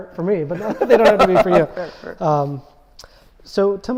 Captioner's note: laughing